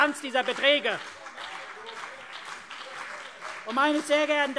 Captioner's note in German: Beifall CDU und BÜNDNIS 90/DIE GRÜNEN